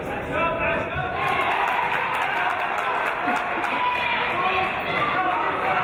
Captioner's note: cheers and applause